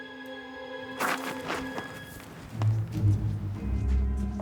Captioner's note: gravel rustling